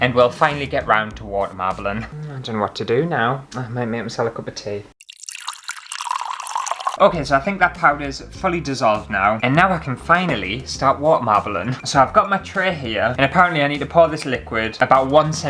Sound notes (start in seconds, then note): 5.0 tea Pouring